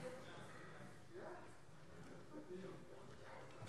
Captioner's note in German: none